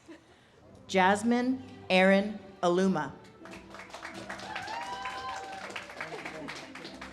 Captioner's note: audience cheers and claps